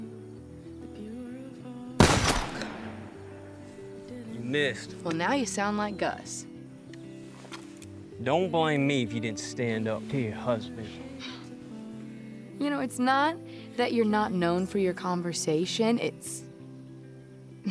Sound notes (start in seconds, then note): 2.6 sighs; 11.2 scoffs